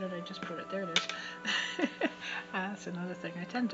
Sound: chuckle

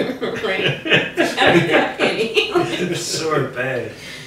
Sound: everyone laughing

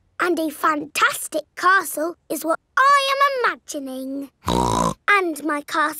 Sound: snorts

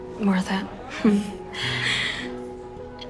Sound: laughing

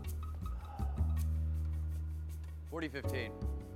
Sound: Phillip sighing

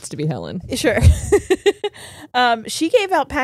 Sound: laughs

